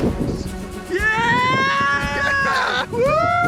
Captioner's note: cheering